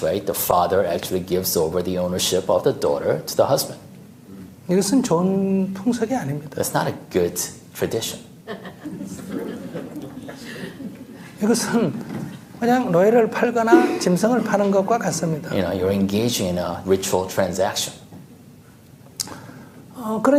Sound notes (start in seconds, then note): 8.5 audience Laughter